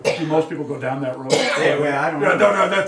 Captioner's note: student coughs; mutters